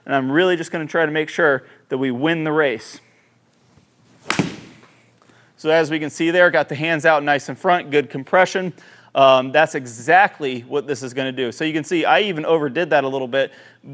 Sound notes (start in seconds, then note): 4.2 ball thuds